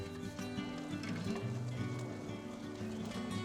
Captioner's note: gentle music; fire crackling; gentle music continues